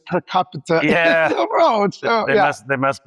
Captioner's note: laughs